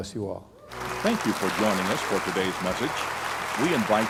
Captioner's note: applause; voice-over